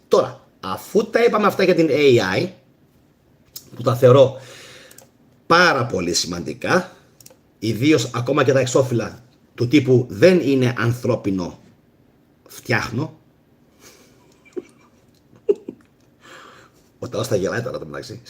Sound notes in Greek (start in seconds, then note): 14.0 γέλια